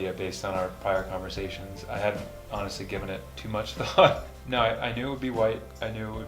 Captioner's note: laughs